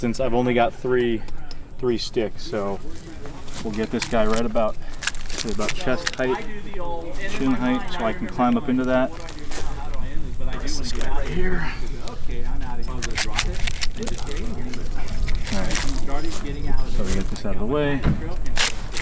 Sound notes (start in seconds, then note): 13.5 team members chattering